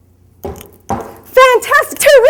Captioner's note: low thudding